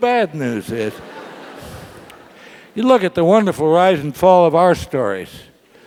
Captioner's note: laugh